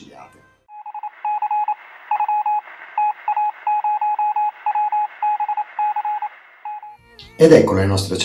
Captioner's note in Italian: suono intermittente